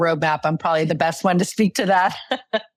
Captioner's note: laughs